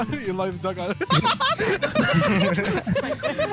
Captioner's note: laughter